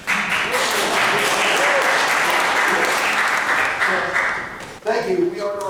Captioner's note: applause